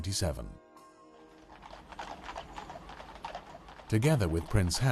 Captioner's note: horses' hooves clomping